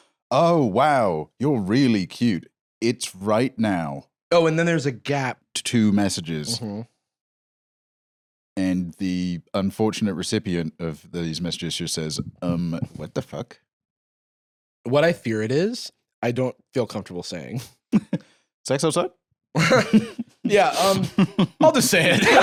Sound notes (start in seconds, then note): 19.6 chuckles; 19.6 laughs